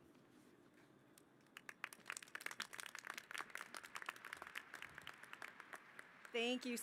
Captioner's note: applause